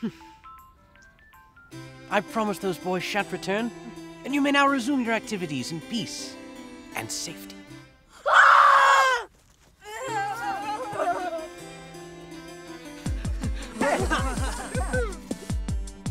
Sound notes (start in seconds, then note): 8.2 screaming